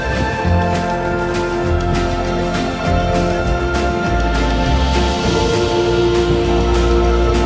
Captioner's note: wind blowing